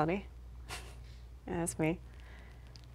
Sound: laughs

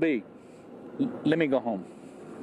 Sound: HABLA EN INGLéS

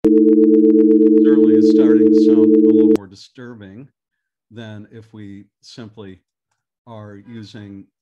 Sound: single long tone

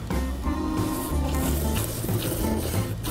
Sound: slurping all that goodness

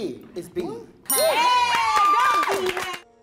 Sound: cast applauding and cheering

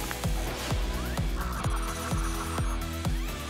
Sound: whoosh; spinning sounds

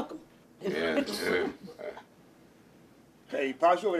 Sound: some members chuckles

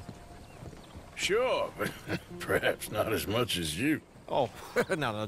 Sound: laughs

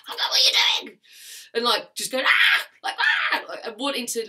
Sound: screams

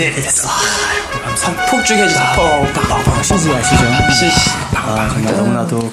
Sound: fireworks

